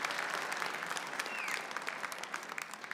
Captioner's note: whistle sounds